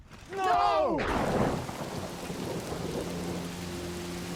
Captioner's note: thunder